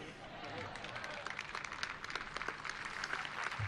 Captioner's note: applause